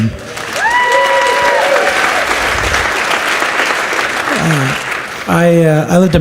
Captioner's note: audience cheers and applauds